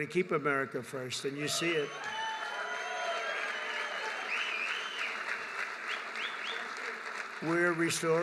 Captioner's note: applause